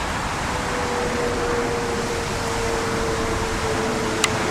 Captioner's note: airplane Noise